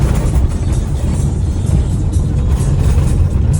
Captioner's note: dirt road grumble competes with random Spotify techno